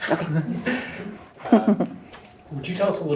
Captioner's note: chuckles